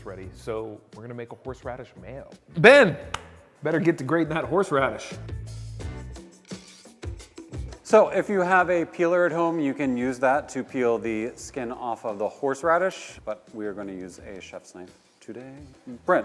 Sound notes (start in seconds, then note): 3.0 claps hands; 5.8 mellow rock music